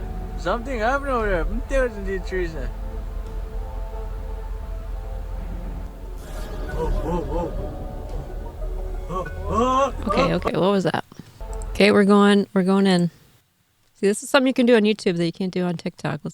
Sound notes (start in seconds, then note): 3.1 foreign language